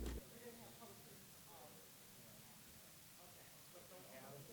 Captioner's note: people chatting